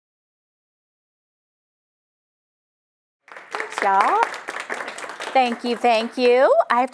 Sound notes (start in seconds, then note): 3.2 applause